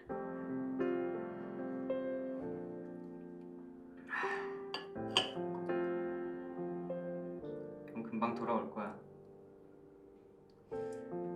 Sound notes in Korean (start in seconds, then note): 4.7 찻잔 내려놓는 소리